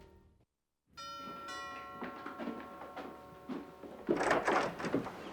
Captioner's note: doorbell ringing; door clicking